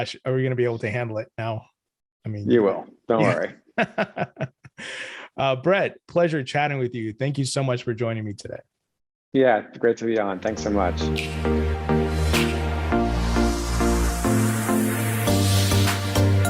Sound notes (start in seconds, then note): 3.7 laughs; 12.0 upbeat music